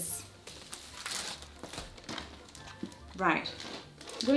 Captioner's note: gentle festive music; packaging rustles